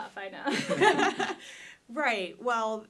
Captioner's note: group laughing